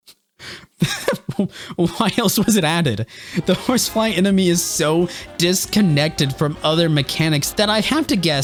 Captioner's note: laughs